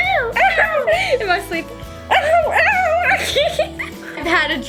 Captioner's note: laughs